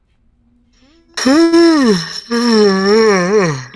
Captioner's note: yawn